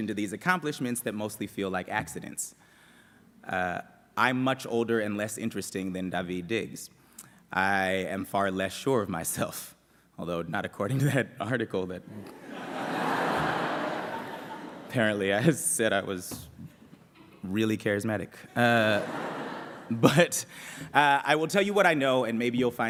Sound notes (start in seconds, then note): 12.2 laughter